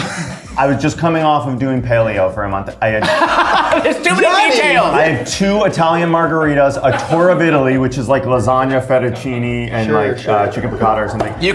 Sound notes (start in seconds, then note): 3.0 all laughing